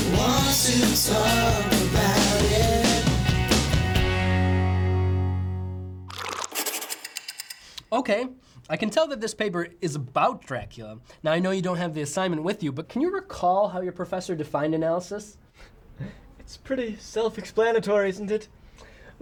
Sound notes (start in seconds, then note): 3.4 music fades out; 6.1 coffee pouring, pencil scribbling, clock ticking; 15.9 quiet laugh